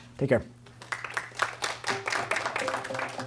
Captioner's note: applause